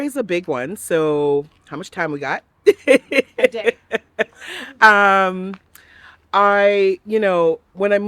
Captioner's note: laughs